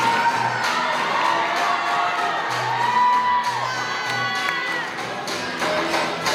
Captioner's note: applause